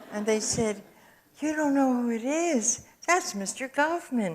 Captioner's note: audience chuckles